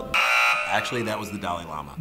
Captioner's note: buzzer